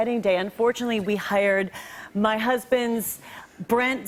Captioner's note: none